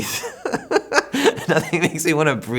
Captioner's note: laughs